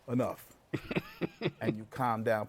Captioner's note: laughs